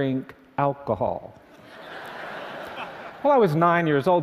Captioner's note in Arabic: ضحك